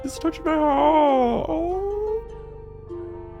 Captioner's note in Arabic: الأنين